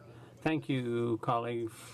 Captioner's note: speaking French